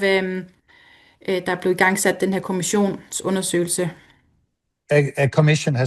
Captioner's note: foreign language